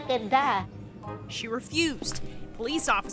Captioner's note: voiceover